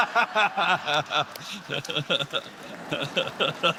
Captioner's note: laughter